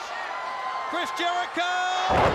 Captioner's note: crowd cheering